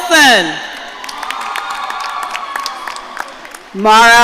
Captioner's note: audience cheering